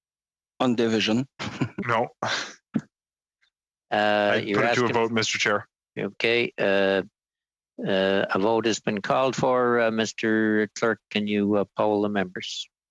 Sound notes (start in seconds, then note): 4.9 speaking French